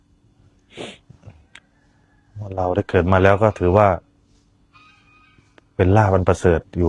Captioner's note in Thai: เสียงสูดหายใจ